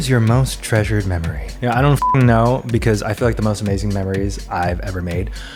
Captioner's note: beep